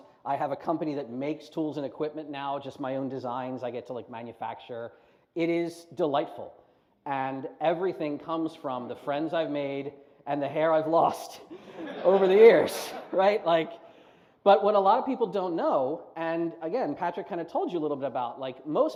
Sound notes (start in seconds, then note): 11.5 laughter